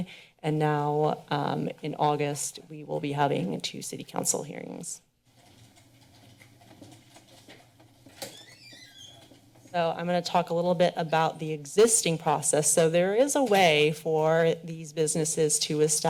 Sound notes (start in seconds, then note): 6.0 silent; 8.2 door squeaking